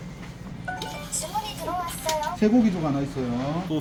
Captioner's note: POS. Ding dong